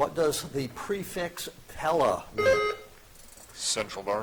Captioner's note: buzzer chiming